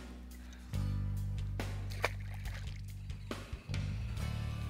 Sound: upbeat music; water splashes

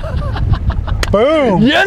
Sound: chuckling

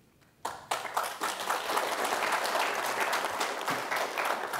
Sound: applause

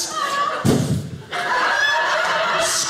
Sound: audience laughing

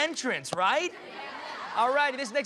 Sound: laughter

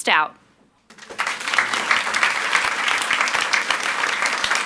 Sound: audience applauds

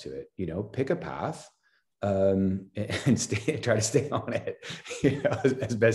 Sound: laughs

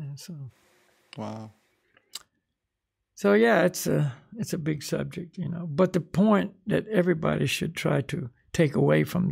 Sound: laughs

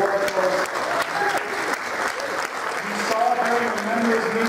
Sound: applause

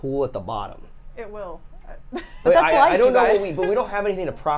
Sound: wheezes

